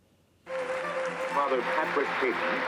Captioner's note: applause